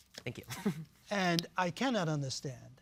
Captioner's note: chuckles